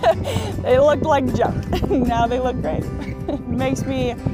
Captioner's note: laughs